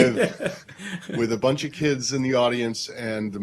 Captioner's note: laughter